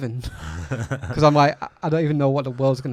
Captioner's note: laughs